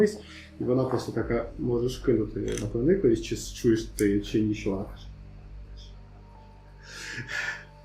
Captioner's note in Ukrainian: шепоче